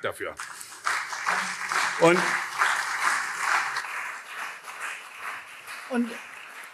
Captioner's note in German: Beifall CDU und SPD